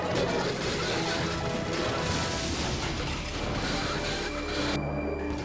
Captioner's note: dragster crashing